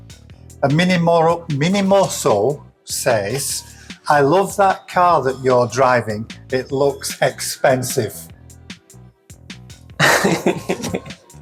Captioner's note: laughs